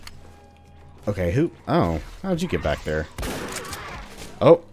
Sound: boom

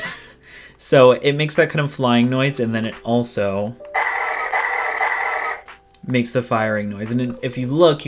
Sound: firing noises

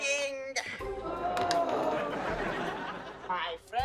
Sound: groaning

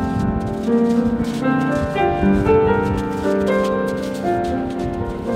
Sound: sandy footsteps

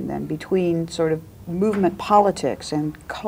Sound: none

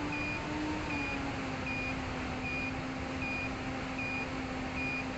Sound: low voltage warnings

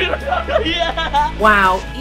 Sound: yells Excitedly

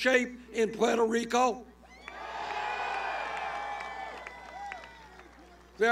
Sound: cheers

